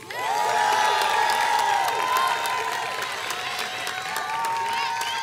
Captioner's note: ongoing applause